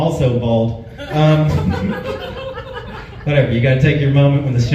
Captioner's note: laughs